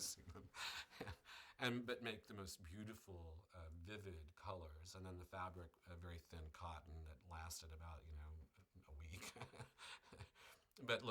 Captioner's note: laughs